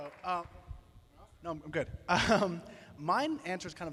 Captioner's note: laughs